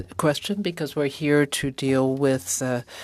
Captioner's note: speaking French